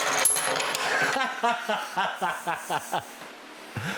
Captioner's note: laughs